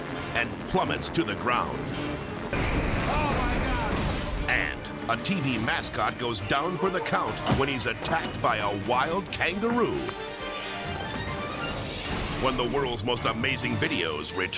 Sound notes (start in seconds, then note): 2.4 helicopter shattering